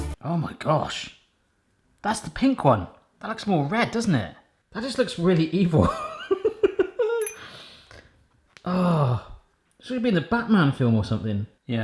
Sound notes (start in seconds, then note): 7.0 laughs